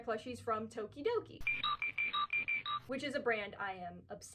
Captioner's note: bing bong bing bing bong